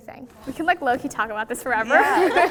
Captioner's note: laughs